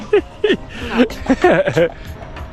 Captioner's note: laughs